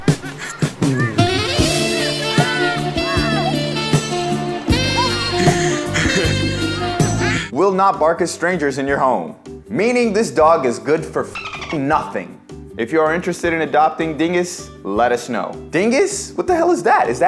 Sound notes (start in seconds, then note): 0.0 boy yelling; 0.0 cameraman laughing; 11.3 dolphin chirping